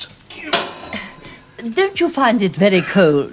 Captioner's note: vent clangs